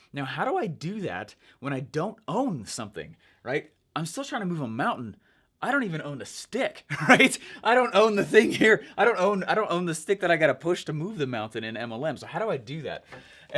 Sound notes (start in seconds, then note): 6.9 chuckles